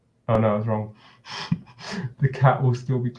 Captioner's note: chuckles